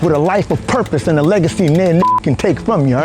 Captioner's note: beep